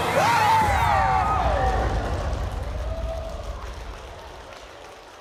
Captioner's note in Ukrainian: оплески